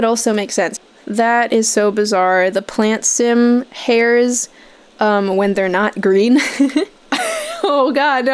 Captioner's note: chuckling